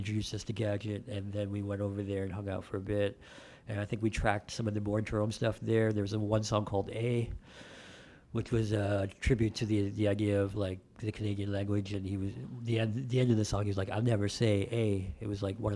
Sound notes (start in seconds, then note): none